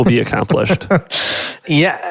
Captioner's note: laughs